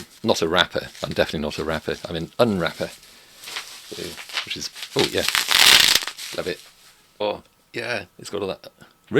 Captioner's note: crinkling sound